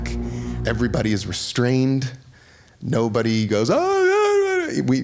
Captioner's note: yelling